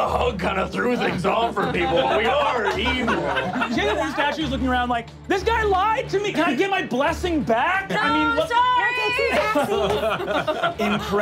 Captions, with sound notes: - I know the hug kinda threw things off for people, but we are evil. (laughing) - You see that this statue's looking around like, This guy lied to me! Can I get my blessing back? - No, sorry! - No takesie-backsies!